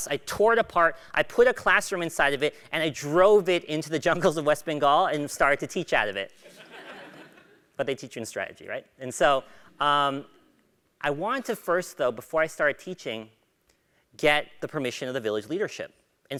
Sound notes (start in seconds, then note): 6.5 laugh